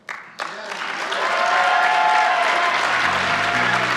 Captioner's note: applause